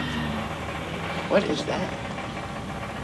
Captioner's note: engine rumbling